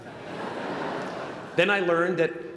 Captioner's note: laughter